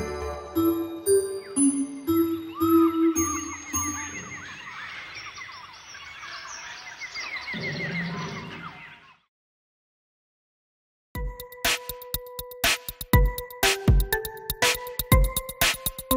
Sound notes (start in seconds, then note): 3.5 birds chirping; 11.2 upbeat hip hop music